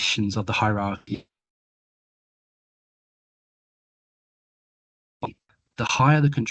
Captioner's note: audio dips